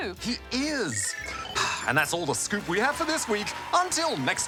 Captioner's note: sighs